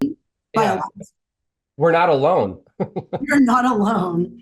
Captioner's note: laughs